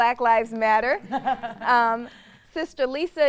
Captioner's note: laughs